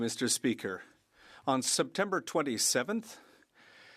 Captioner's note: speaking French